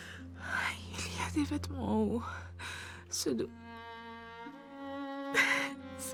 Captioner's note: speaking French